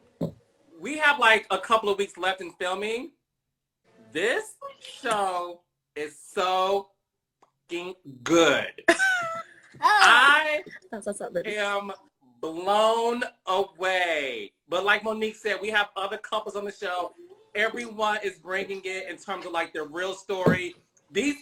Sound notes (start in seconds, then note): 8.9 Monique laughs and claps